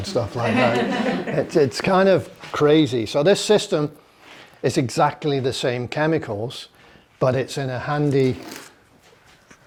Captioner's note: laughter